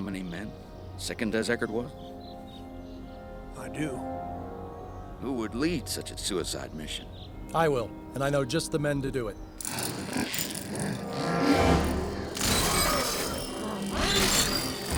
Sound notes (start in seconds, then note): 9.6 growling